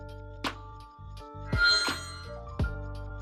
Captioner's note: Explicato whoosh